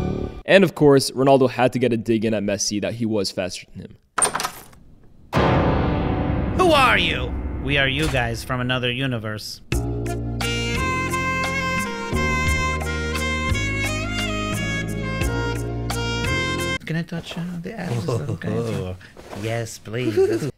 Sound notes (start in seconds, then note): 4.2 door opening; 9.5 romantic music; 17.8 murmuring